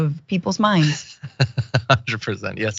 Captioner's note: laugh